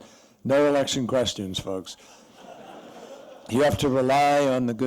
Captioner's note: laughter